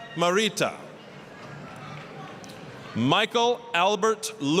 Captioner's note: applause